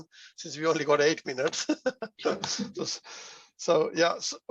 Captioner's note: chuckles